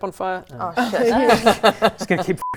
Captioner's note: laughs